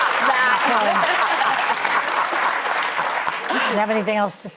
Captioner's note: laughter